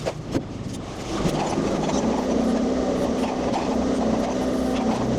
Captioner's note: machinery rumbling